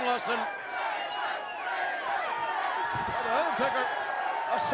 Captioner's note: crowd chants "Taker"